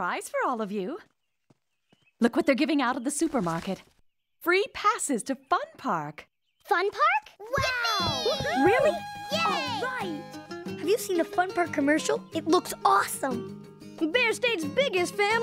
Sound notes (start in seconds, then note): 7.6 cheering